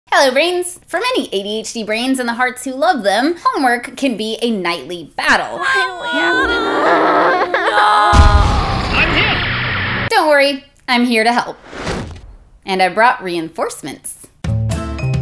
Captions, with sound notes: Hello Brains! For many ADHD brains and the hearts who love them, homework can be a nightly battle. *Child wailing and crying* Don't worry. I'm here to help and I brought reinforcements